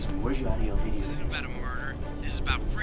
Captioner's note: Marty Over Radio